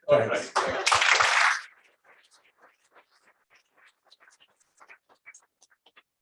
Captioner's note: applause